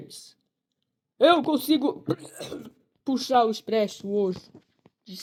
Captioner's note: cough